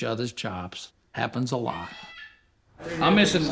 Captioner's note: bird squawking